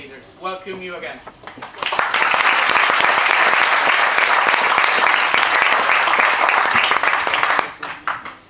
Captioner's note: applause